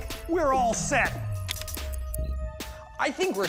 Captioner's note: clicks timer